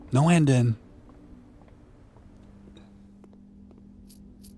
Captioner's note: footsteps